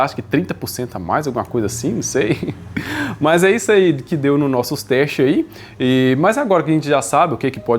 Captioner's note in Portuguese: risadas; suspirando